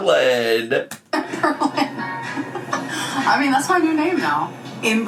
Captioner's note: laughs